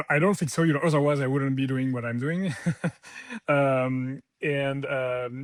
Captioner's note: laughs